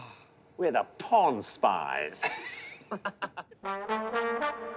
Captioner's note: laughing